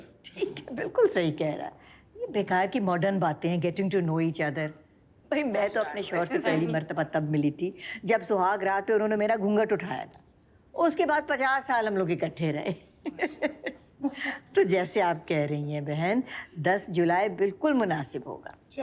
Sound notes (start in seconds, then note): 12.8 laughter